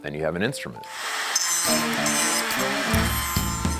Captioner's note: saw buzzing